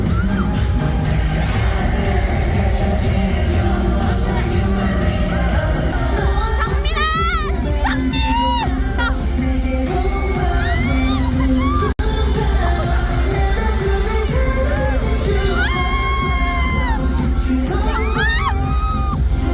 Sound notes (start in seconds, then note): 15.6 screams; 15.6 ahhhhh